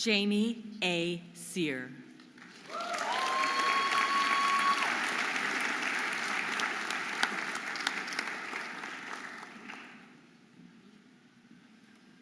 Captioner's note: audience applauding and cheering